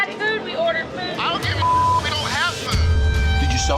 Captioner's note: beep